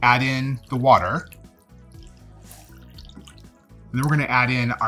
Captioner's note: upbeat music; water running